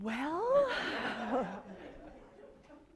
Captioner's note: laughter